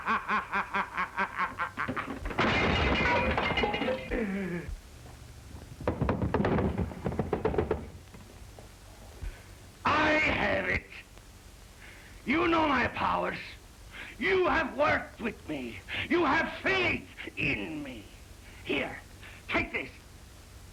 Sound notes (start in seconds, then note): 0.0 maniacal laughter; 4.1 glass shatters